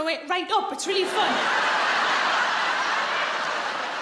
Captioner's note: laughing